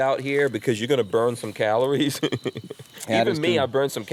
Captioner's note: laughs